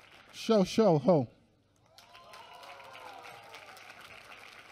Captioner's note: applause